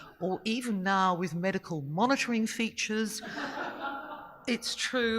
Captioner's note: audience laughing